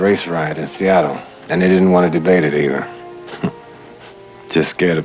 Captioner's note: chuckles